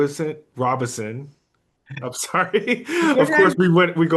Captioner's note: laugh